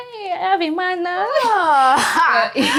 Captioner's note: laughs